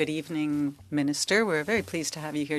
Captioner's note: speaking French